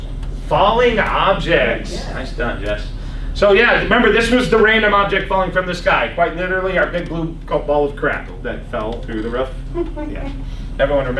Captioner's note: laughs